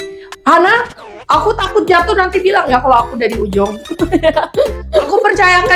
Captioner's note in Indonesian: tertawa